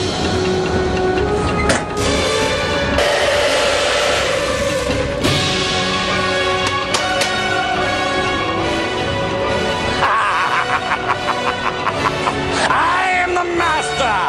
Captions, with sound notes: (upbeat music) (laughing) I am the master